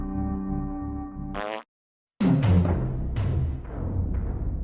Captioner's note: Abe farts